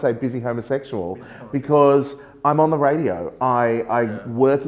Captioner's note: laughs